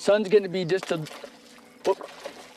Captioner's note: splash